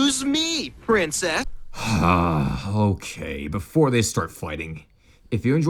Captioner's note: sighs